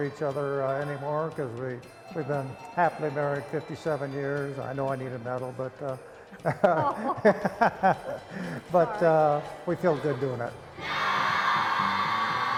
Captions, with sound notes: We don't do a lot for each other anymore because we've been happily married 57 years. I know I need a medal, but-- [laughing] --but we feel good doing it.